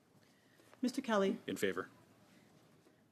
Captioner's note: speaking French